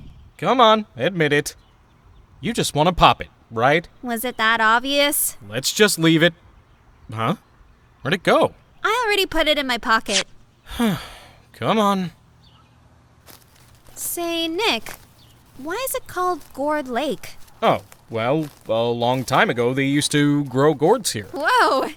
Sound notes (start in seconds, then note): 10.6 sigh